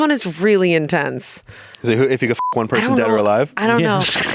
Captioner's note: beep